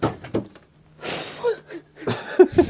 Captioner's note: laughing